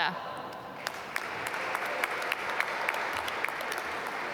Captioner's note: applause